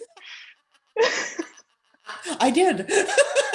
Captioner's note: laughter